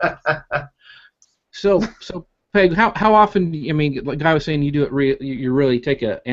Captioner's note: laughing